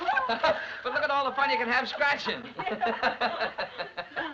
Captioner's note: laughing